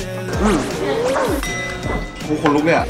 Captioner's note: Mm! Mmm!